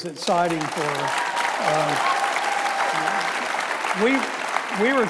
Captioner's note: audience applauding